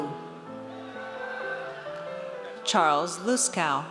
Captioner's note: audience cheers